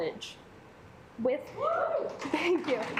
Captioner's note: claps; assembly clapping